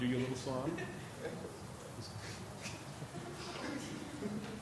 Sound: chuckling

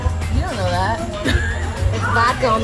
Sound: laughing

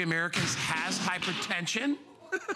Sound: laughter; laughter

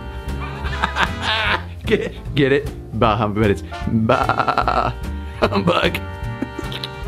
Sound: laughs

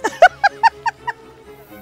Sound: laughing

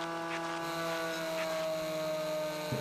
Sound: motor whirring; revving

